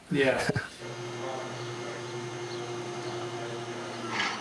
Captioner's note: machine roaring